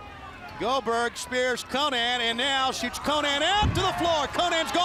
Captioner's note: crowd chatter